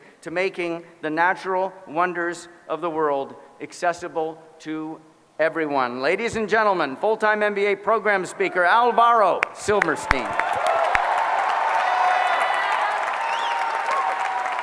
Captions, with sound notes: to making the natural wonders of the world accessible to everyone. Ladies and gentlemen, full-time MBA program speaker, Alvaro Silberstein. [APPLAUSE]